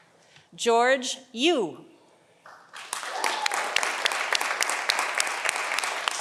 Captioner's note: audience applauding